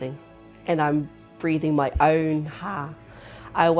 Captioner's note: breath